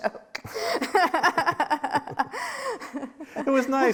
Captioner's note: laughs